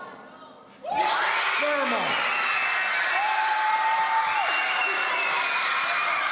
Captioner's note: audience cheering